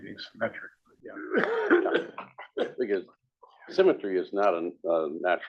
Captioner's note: cough